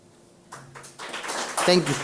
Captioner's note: audience clapping